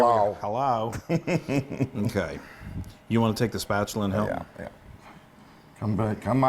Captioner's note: laugh